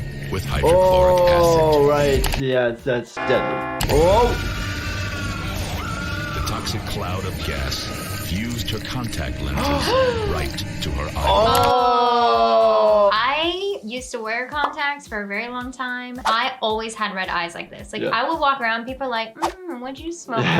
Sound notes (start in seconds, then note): 3.2 bell ringing; 4.2 Katie screaming; 9.6 gasp